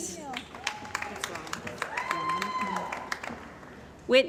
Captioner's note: cheering & Applause